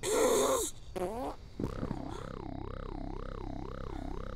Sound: fart

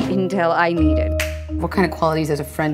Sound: claps

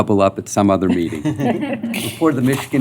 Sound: laughter

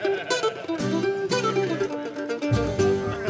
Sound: laughing

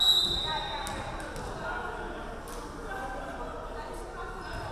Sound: referee whistling

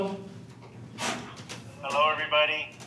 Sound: on phone

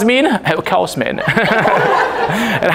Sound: bri'sh accent

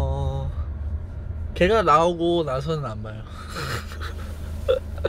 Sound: laughs

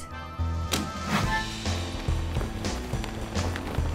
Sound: door opens

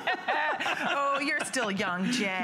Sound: laughter

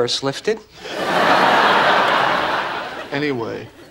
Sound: audience laughing

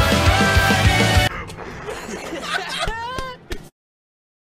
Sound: explosion sound impression followed by laughter; 14 whole seconds of silence

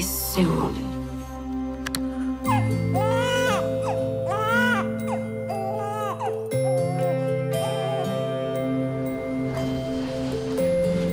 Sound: baby crying

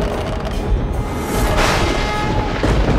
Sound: conch blows

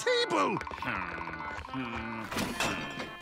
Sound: groaning

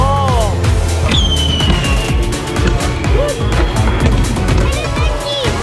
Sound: fireworks exploding

